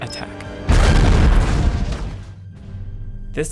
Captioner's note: explosion